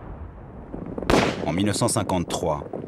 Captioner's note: shooting